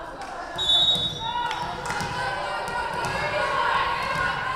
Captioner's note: whistle blowing